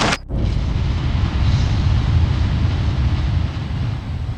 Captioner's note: planets exploding